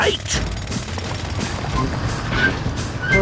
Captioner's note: drilling